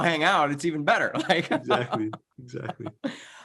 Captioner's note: laughs